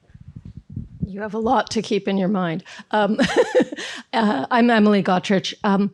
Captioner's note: laughs